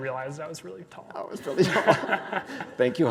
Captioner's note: both laughing